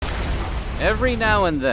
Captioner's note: thunder